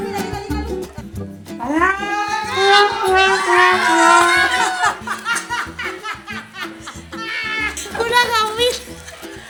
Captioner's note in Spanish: risas